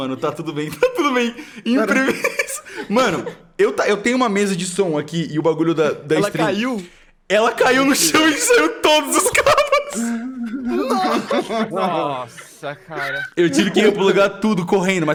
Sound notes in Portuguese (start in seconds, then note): 0.1 Risada nervosa; 9.1 Risada nervosa